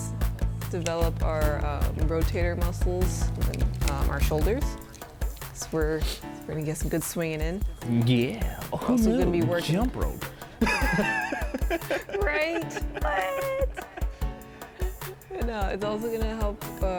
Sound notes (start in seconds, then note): 10.5 both laugh